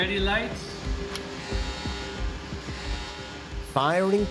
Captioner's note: siren blaring